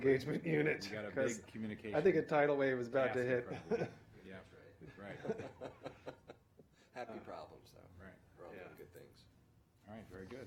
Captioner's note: laughter